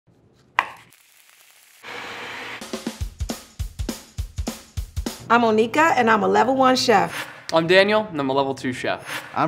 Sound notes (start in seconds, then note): 0.4 pan sizzling; 0.5 knife chopping; 1.8 food processor whirring; 2.6 upbeat music